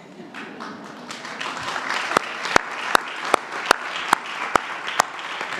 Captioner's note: applause